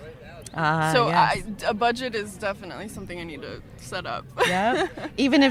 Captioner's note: laughs